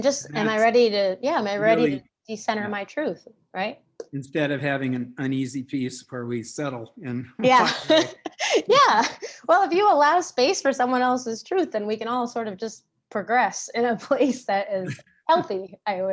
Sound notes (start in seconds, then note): 7.4 chuckles